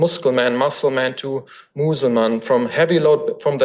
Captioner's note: foreign language